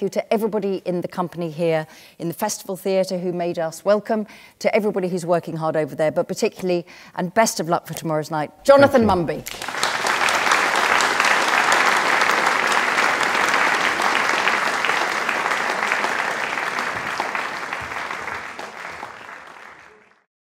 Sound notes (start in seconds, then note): 12.5 applause